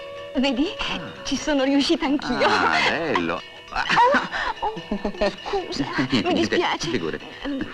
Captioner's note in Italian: risate